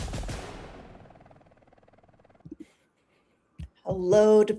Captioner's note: helicopter rotors whirring